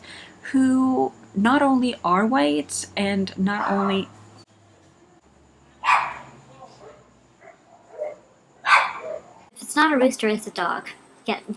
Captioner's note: dog barks